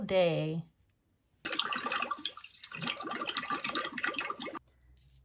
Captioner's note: water gurgles